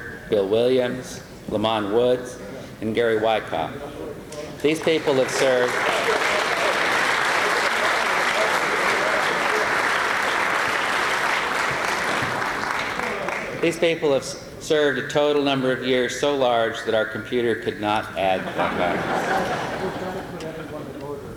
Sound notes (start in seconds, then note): 7.0 applause